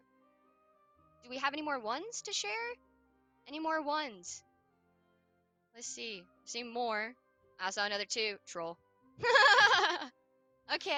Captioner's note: laughs